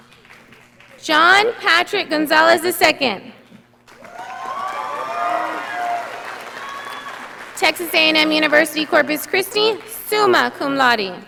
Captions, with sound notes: John Patrick Gonzales II. (audience applauding) Texas A&M University Corpus Christi, summa cum laude.